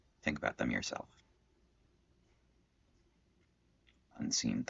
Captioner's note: silence